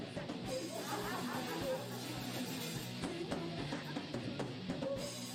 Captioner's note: laughing in the background